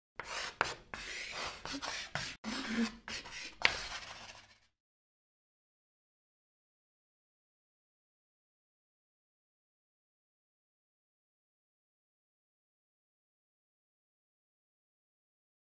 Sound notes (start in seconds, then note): 0.2 chalk scratching